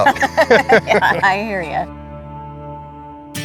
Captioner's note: both laughing